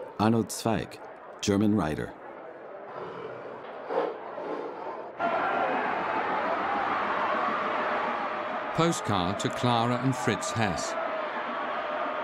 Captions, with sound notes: Arnold Zweig, German writer. (lion roars) (people cheering) Postcard to Clara and Fritz Hess.